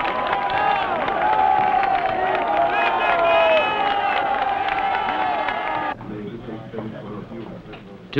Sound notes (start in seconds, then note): 2.1 clapping